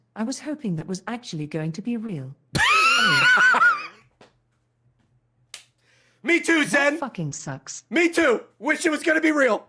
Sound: laughs

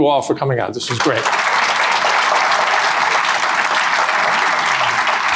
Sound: audience applause

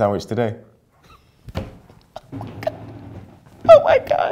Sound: laughs

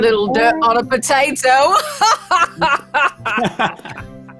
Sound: laughing

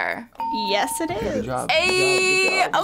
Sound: bell rings

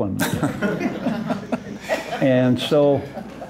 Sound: laughter

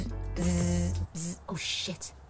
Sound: bzzzz

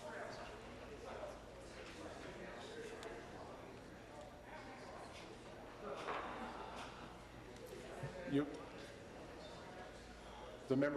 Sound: voice trailing

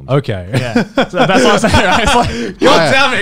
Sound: laughing

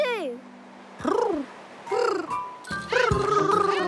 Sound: purring

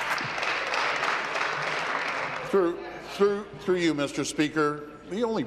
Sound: applause

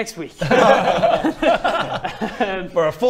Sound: anti-climactic laughter

